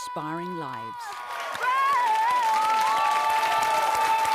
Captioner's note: applause